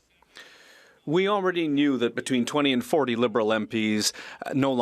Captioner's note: speaking French